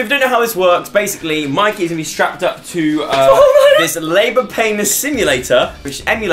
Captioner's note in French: pleure